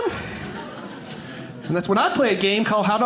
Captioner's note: audience laughing